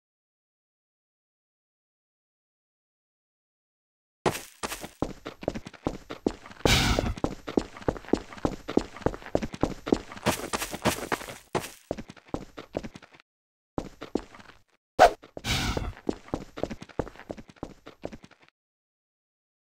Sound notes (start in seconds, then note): 4.3 snowy Footsteps; 5.0 concrete Footsteps; 10.0 snowy Footsteps; 11.6 concrete Footsteps